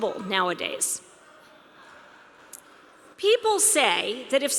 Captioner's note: audience laughing